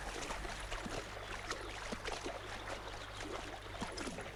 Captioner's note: hooves splashing